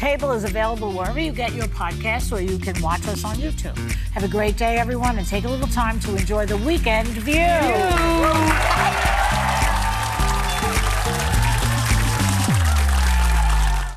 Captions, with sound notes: Behind the table is available wherever you get your podcast or you can watch us on YouTube. Have a great day everyone and take a little time to enjoy the weekend view. [ Cheers and applause ] (upbeat music) (audience applauding)